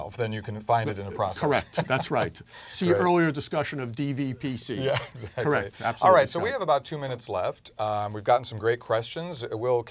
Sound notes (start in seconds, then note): 0.9 laugh